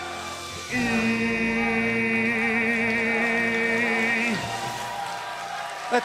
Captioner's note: crowd cheering